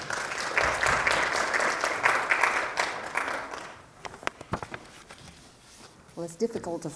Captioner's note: applause